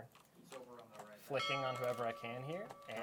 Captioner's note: bell ringing